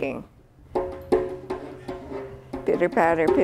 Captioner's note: fingers tapping